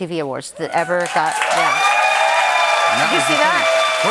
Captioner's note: cheers and applause